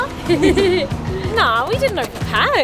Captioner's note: laughing